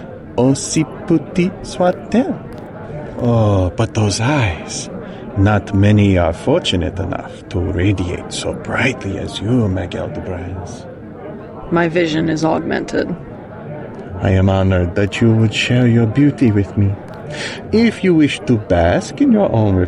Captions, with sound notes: Speaking literally now, eh? She said the line! [crowd goes wild]